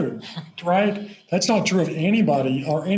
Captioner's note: both Laugh